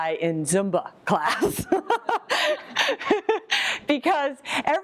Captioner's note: laughs